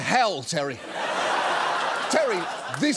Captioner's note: audience laughs